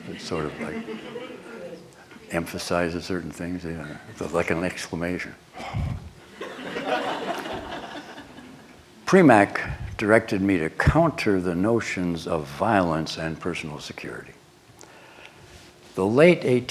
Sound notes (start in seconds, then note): 5.6 breathes intentionally on microphone; 6.3 laughter